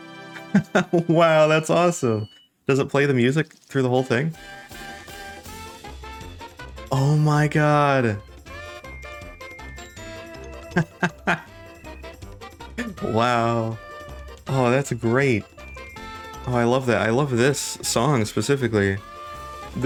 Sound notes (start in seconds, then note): 0.4 laughs; 10.5 laughs